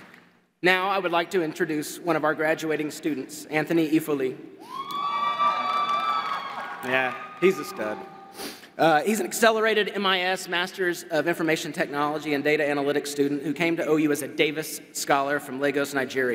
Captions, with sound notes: Now, I would like to introduce one of our graduating students, Anthony Efoli [Crowd cheers] Yeah, he's a stud He's an accelerated MIS Masters of Information Technology and Data Analytics student who came to OU as a Davis Scholar from Lagos, Nigeria.